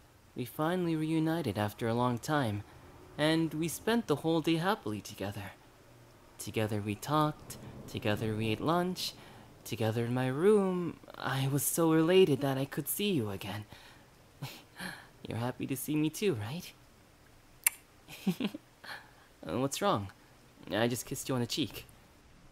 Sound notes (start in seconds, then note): 14.6 laugh; 17.6 kiss; 18.1 laugh